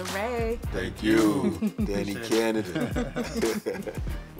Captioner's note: giggling